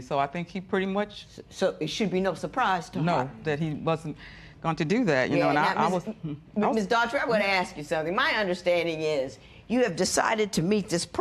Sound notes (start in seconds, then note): none